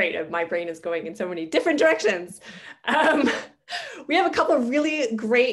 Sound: laughing

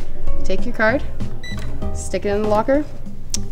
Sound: beeps

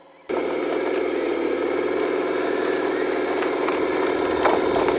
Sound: bulldozer engine revving

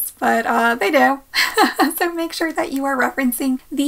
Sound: chuckles

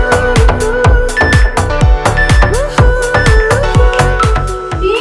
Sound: phone beeping

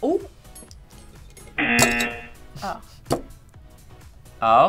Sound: buzzer rings

